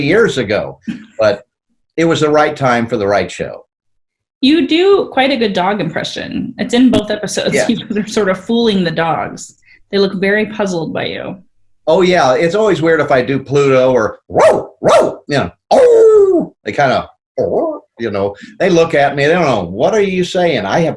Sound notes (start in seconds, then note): 14.3 barks; 15.7 howls; 17.4 growls